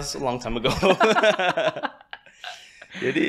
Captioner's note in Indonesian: tertawa